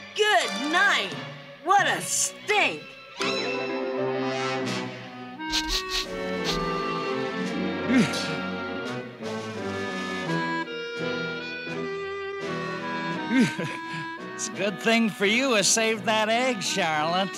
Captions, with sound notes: Good night! What a stink! [SNIFF SNIFF] [SIGHS] It's a good thing for you I saved that egg.